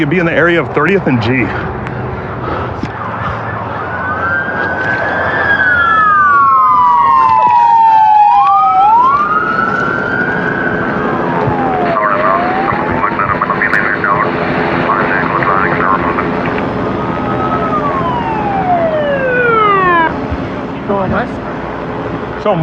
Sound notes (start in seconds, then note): 11.3 radio ctter